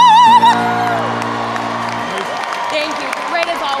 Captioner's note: audience cheers and applauds